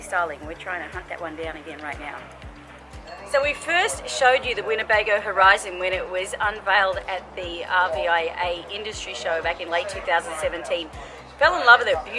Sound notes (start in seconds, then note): 2.5 bell rings